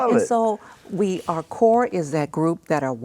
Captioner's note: laughs